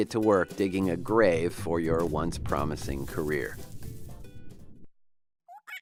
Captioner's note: drone fades into ocean bottom